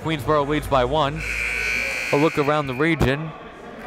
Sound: buzzer dings

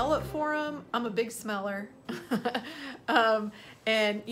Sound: chuckles

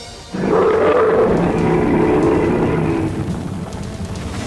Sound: Kyuubi is roaring

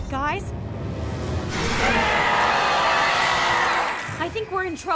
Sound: roaring

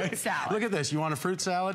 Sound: laughter

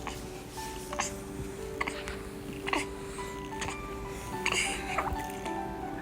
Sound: gulp

